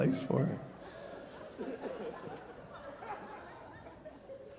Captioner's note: audience laughing